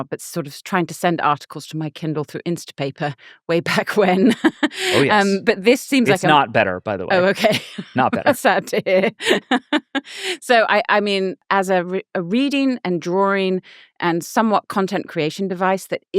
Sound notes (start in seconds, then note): 9.2 laughing